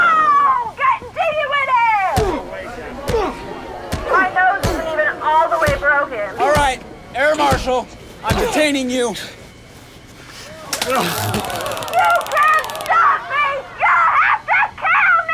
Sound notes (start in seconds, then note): 0.2 punches landing; 10.8 zapping